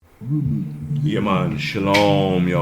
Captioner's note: cough